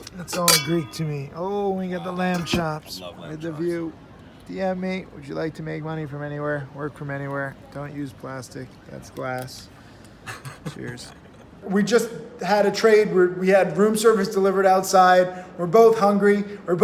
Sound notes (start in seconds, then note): 10.3 laughing